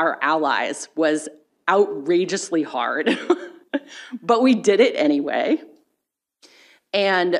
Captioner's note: chuckles